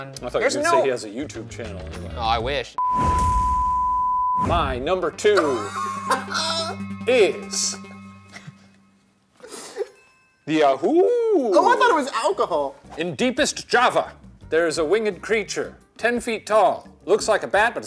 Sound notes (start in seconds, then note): 2.8 test pattern tone beeping; 4.5 suspenseful music